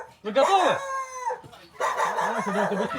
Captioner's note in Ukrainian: собачий гавкіт